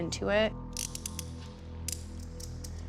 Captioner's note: handcuffs clicking